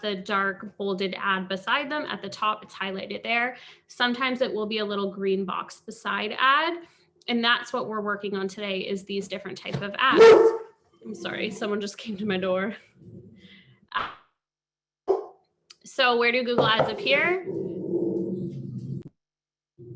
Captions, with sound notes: the dark, bolded ad beside them at the top, it's highlighted there. Sometimes it will be a little green box, the side ad, and that's what we're working on today, is these different types of ads. [dog barks] I'm sorry. Someone just came to my door. So where do Google Ads appear? [dog growls]